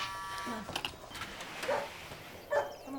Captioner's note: buzzer buzzes; dog barking